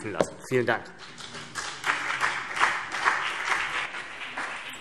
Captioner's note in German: Beifall CDU und BÜNDNIS 90/DIE GRÜNEN